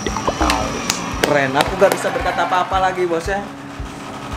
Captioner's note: clapping hands